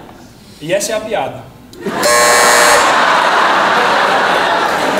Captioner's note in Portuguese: campainha